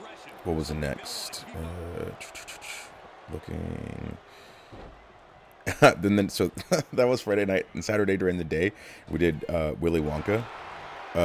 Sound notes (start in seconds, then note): 5.6 laugh